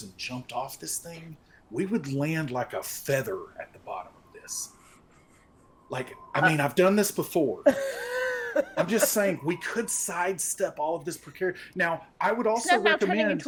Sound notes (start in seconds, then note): 7.6 people laughing